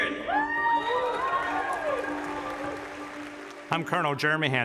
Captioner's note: audience cheers